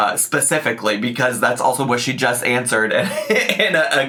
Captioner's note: laughs